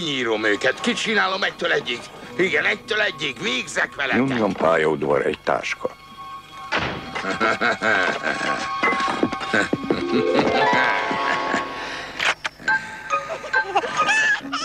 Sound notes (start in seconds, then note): 0.1 angry muttering; 5.5 rumbling and grunting; 6.7 slamming; 11.5 gremlin laughing; 11.5 grunting and laughing